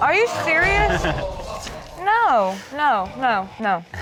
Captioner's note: crowd gasping